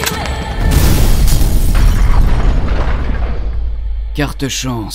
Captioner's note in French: Explosion